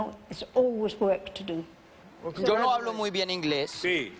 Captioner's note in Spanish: habla en ingles